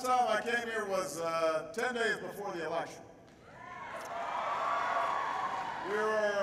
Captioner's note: applause